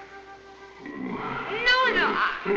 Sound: grunting

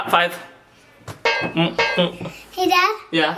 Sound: pot bangs

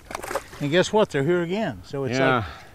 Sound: fish splashing

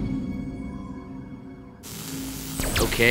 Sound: buzzing

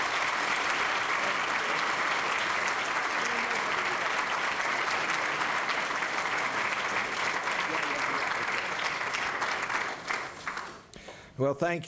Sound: applause

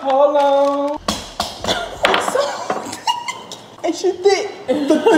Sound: giggling; tapping on table

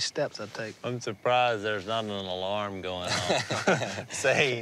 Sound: laughs

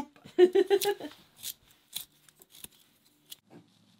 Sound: laughing

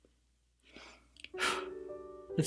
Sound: exhales

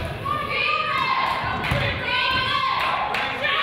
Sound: claps

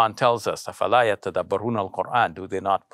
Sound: speaks in arabic

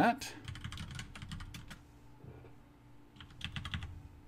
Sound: keyboard clicking

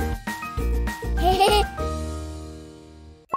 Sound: laughter

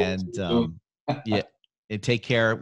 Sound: laughs

